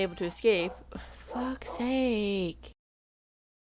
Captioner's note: dogs Barking